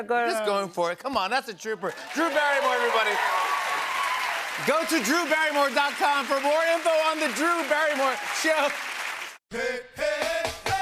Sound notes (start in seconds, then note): 3.3 cheers and applause